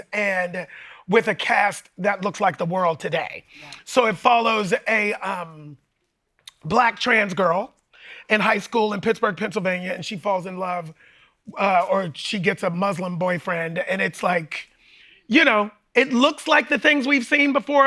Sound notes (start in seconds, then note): none